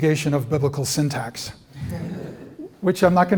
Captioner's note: laughter